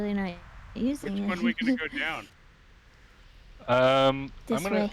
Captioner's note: laughter